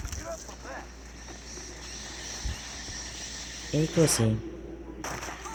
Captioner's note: cries of bats